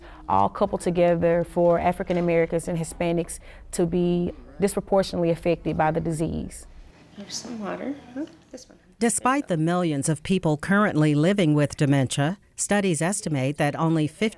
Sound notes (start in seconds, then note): 9.1 voiceover